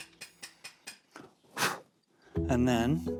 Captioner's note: blows